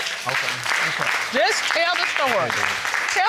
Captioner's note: audience applauding